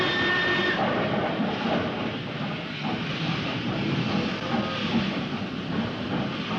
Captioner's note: train horn